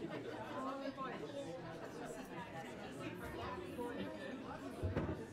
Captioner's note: overlapping chattering